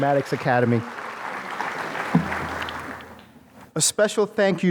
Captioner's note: applause